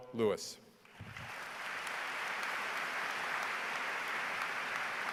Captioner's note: audience applause